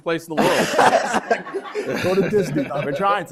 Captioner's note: laughter